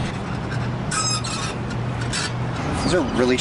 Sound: swing set creaking

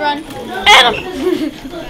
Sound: classroom noise

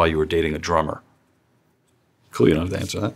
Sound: silence

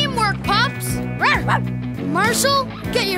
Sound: barking

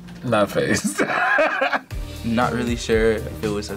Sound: laughs

